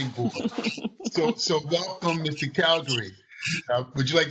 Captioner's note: laughter